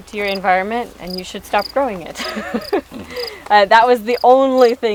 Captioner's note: laughing